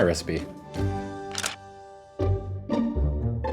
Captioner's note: phone camera clicking; playful music